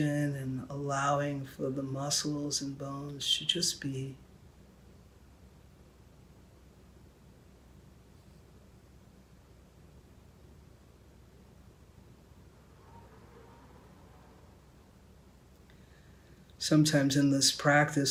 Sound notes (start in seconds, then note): 3.8 silence